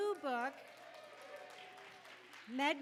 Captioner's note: audience applauding